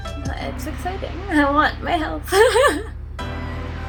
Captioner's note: laughs